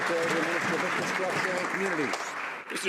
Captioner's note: some Applause